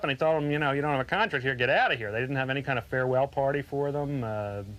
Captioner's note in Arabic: none